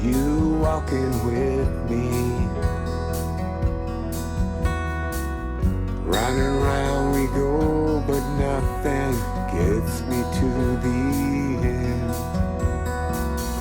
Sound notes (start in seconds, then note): none